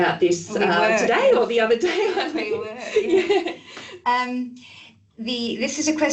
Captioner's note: laughing